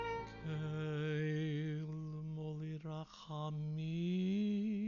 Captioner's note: chanting Hebrew